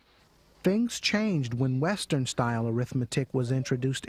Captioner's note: voiceover